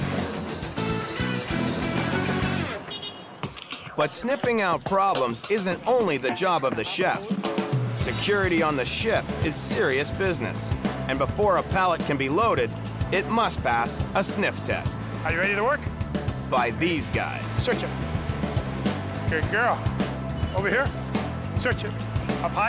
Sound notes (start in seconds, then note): 0.0 cheerful upbeat music; 2.6 forklift honks